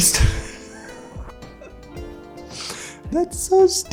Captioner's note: laughs